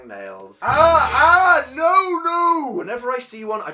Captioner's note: dramatic sound effect